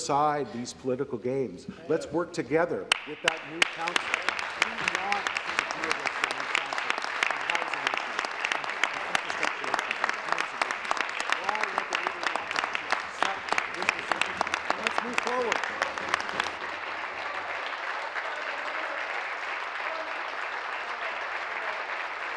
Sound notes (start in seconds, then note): 8.0 applause; 15.1 continued applause